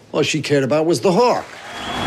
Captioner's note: crowd cheering